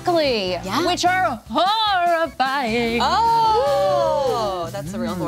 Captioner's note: group whooping